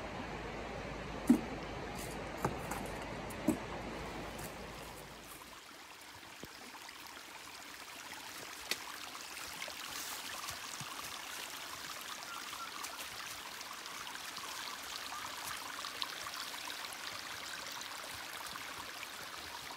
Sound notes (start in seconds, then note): 6.8 trickle of water; 13.9 whistling